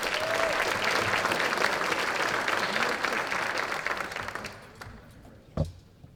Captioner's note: applause